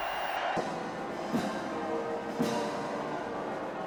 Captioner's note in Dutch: publiek juicht